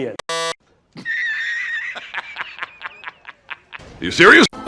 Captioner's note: laughter